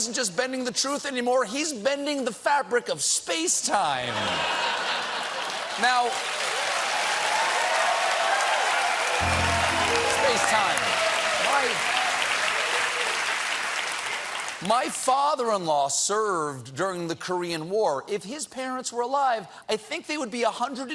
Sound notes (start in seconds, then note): 2.6 applause; 4.0 laughter